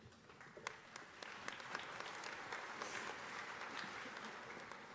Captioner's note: audience applauding